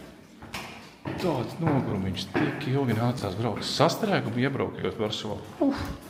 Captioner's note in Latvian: nokrekšķinās